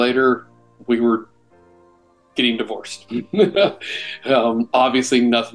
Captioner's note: laughs